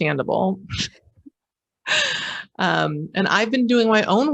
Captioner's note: laughing